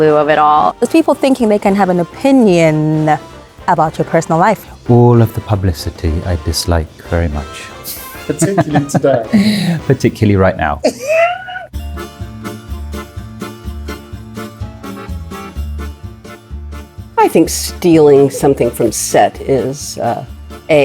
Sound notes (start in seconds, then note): 10.8 interviewer laughing; 11.9 lively music